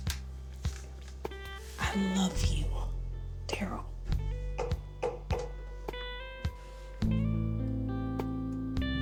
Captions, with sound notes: I love you, Darryl. [tapping on surface] [sensual music]